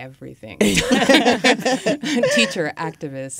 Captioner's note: all laugh